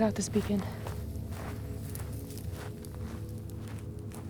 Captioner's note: dirt pattering